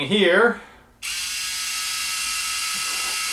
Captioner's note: buzzing